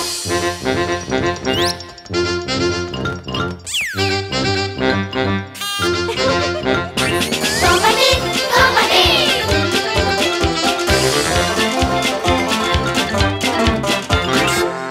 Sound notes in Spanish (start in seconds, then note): 0.1 Música Alegre; 6.0 Risas; 9.5 Música Alegre